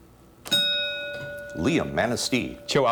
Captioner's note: ding